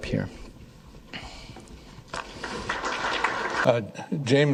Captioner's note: applause